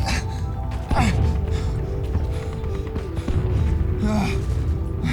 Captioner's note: Stephen gasping